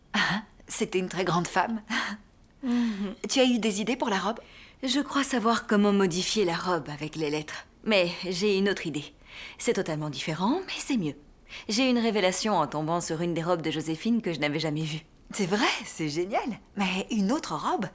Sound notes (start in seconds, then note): none